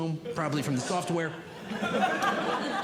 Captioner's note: audience Laughing